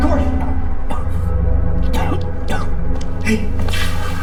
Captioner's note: Corey coughing